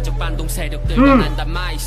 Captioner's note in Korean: 으흠~